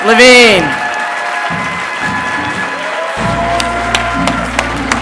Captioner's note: audience applauding